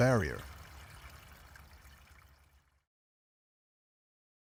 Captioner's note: water and crows fade away